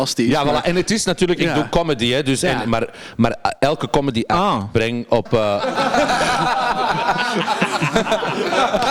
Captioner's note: suprised